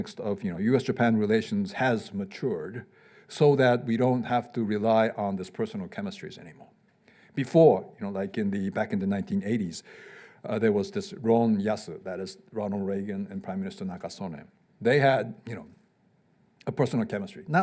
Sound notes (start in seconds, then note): 11.1 speaking Japanese